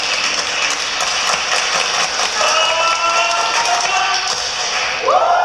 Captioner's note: clapping